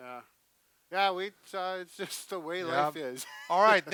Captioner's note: chuckles